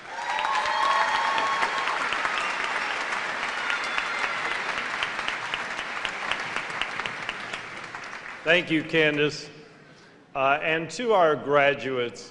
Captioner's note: cheers and applause